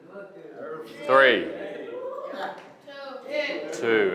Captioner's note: students chattering